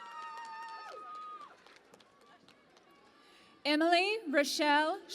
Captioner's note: cheering and Applause